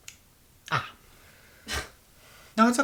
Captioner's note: scoffs